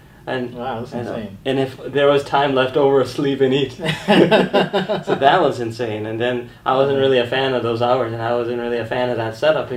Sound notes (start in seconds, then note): 3.8 both laugh